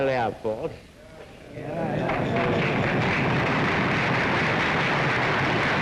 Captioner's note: audience cheers and claps